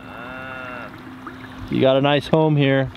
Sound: cows mooing

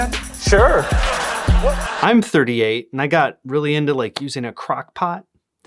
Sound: laughter

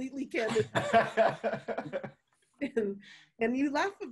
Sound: laughing

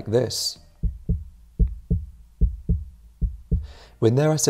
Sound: heartbeat thumping

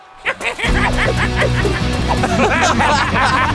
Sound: laughing

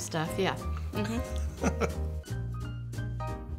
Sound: laughs; gentle piano music

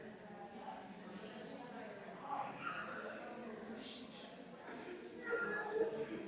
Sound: people chattering distantly continues

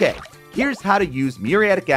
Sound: graphics sploshing; graphics popping

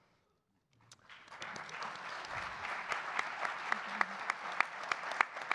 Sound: audience clapping

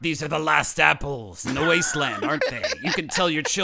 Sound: laughing

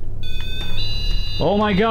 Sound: alarm sounds

